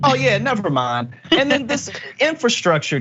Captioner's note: laugh